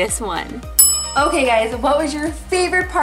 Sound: bell dings

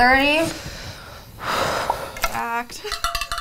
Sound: sighing

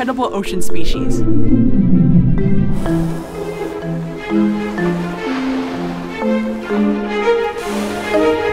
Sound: blue Whale call

